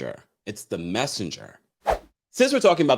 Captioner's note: whoosh